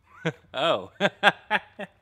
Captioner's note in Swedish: skrattar